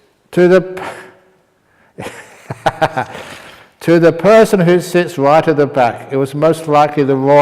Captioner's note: laughter